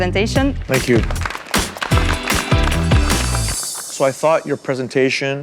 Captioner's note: all applauding